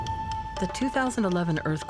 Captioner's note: helicopter blades whirring